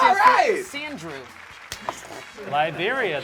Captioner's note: loud cheering